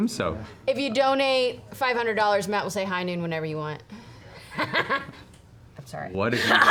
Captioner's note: laughs